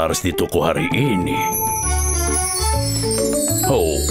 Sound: chimes ringing

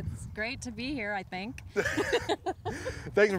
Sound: both laughing

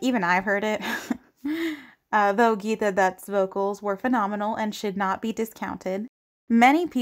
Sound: chagrined chuckle

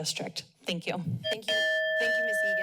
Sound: timer dings

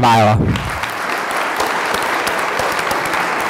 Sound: applause

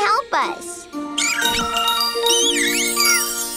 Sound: squeaking

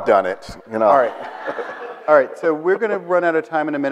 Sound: audience laughs

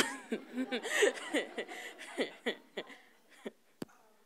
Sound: laughing

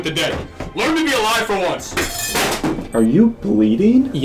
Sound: can clatters

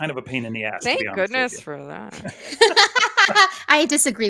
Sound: laughs

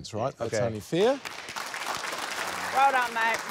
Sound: applause

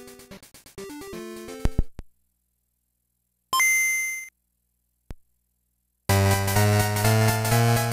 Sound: game audio

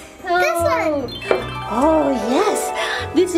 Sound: audio chimes

